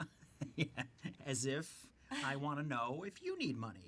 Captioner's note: chuckles